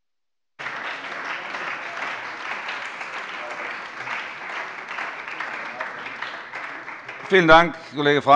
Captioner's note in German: Beifall bei der SPD, der CDU und dem BÜNDNIS 90/DIE GRÜNEN